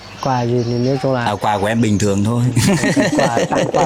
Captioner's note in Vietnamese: tiếng cười